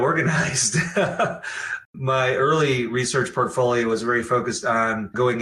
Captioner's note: laughs